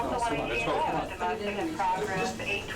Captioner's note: officer Over Radio